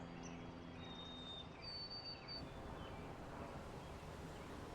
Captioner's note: birds chirping